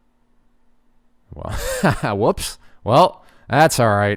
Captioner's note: laughs